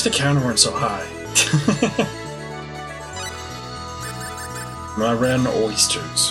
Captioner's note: laughs